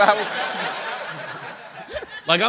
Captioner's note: laughter